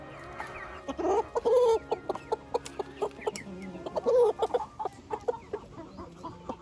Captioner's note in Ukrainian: сміх